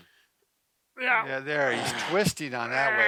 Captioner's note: grunts